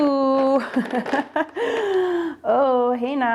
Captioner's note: laughing